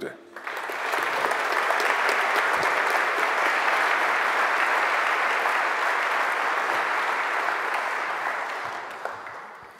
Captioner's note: general applause